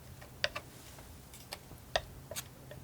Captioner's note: tapping